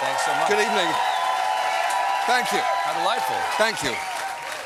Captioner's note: cheers and applause